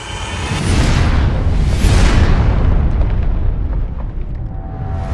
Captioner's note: rock crumbling